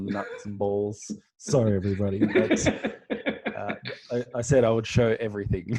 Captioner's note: laughing